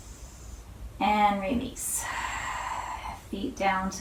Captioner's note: inhales; exhales